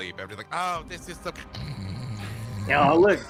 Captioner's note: snores